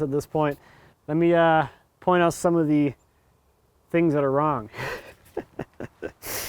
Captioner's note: laughs